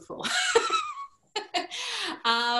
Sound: laughter

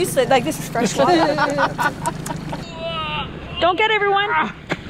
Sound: group laughing

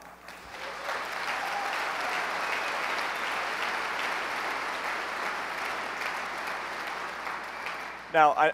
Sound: applause

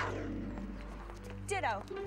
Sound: mountain lion snarling

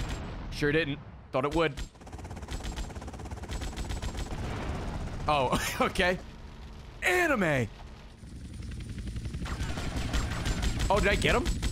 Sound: laughs

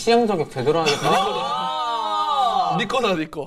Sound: scream

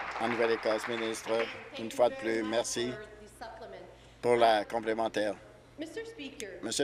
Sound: applause

